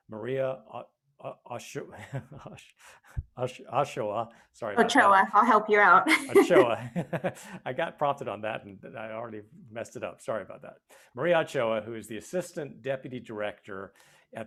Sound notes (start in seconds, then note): 6.0 both laughing